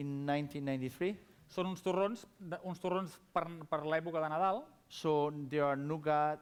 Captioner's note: non-english speech